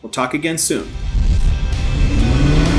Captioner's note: rock music; engines revving